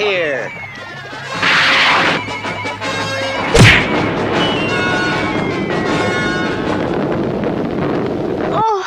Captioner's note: smack!